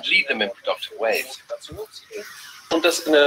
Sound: foreign

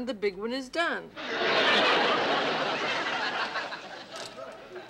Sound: laughter

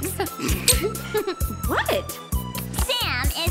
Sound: Alex and Sam snickering

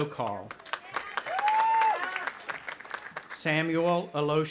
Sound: audience applauding and cheering

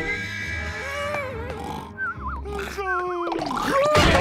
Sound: snoring

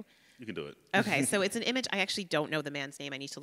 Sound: laughs

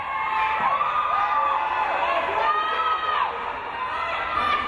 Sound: crowd cheering

